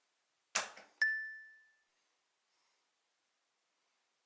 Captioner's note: bell dings